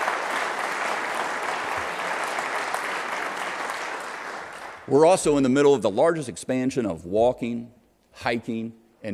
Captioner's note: applause